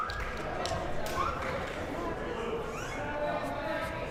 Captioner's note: crowd murmuring